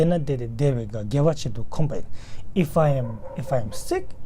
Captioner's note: tibetan